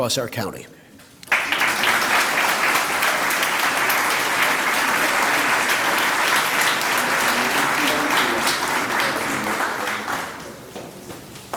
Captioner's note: applause